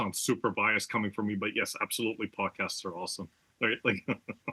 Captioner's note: laugh